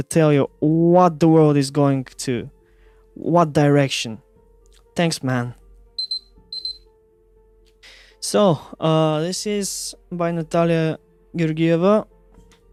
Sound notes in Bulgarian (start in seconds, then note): 6.0 Таймер